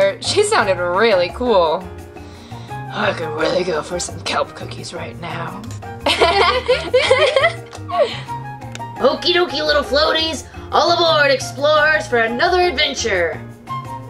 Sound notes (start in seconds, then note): 6.0 laughter